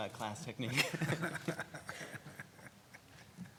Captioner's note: laughing